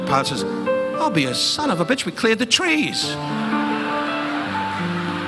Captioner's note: audience laughing